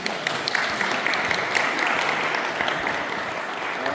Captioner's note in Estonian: aplaus